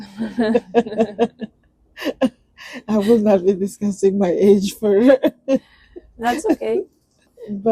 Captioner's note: laughs; laughs